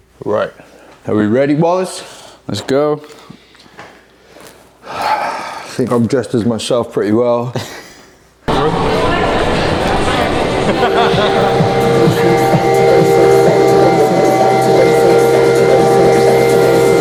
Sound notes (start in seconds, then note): 8.4 murmuring